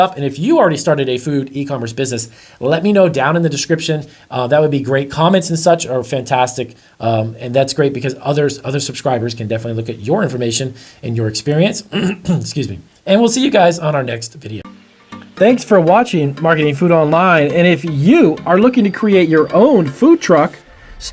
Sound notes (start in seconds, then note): 11.9 clears throat